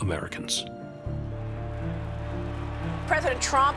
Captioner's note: crowd cheering